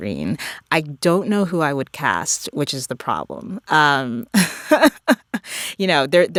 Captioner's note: laughter